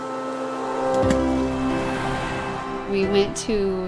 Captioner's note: water splashing